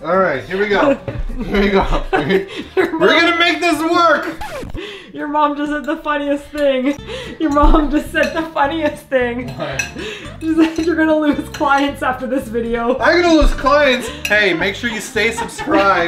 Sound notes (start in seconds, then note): 1.3 laugh; 4.2 record scratch; 4.7 laughing